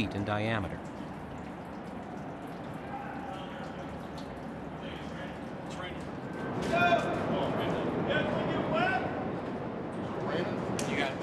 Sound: yelling in distance

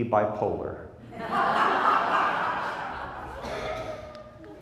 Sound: crowd laughs

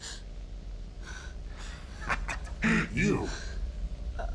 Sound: gasps

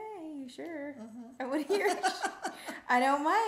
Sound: laughing

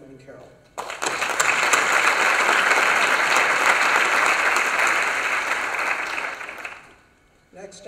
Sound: applause

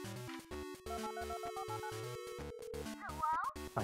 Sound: phone call

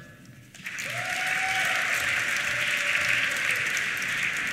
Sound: applause

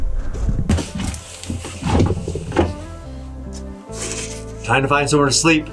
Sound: shuffles loudly

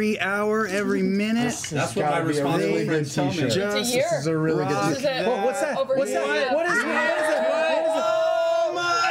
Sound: yelling

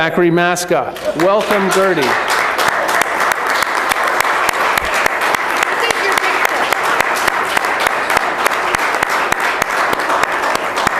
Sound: applause

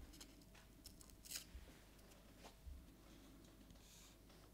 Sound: paper tearing

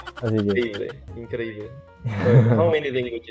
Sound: Spanish

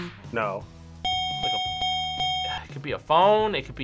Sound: bell rings

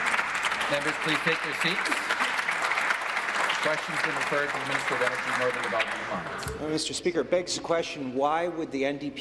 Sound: applause

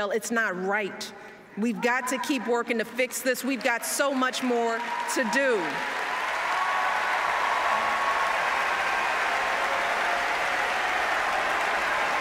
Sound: applause

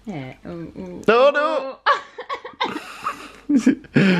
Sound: laughing

